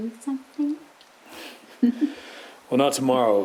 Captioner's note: chuckles